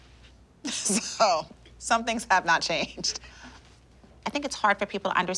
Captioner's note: laughing